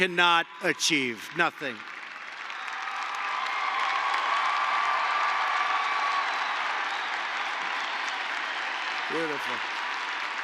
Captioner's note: applause